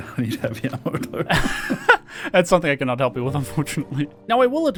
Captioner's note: laughter